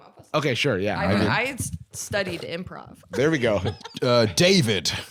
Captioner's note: laughs